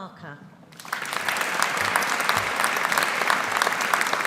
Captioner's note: audience applauding